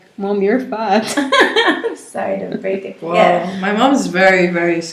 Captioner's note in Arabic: ضحكات